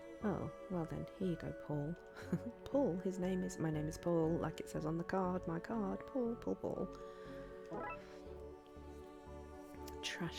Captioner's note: laughs